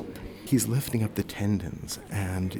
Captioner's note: voiceover